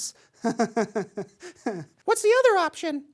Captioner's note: nervous laughter